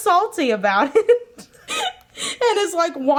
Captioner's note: giggling